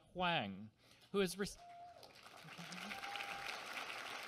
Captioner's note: applause